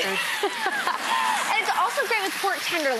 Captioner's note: laughter